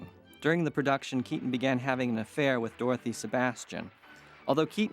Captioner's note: applause